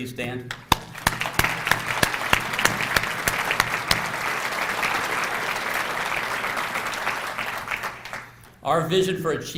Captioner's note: applause